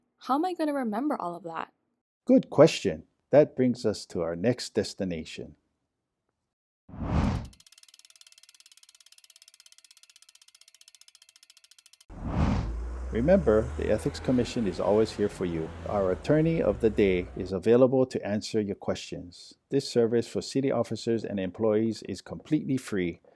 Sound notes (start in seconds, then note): 5.3 compass spinning; 5.3 whoosh; 12.7 trolley passes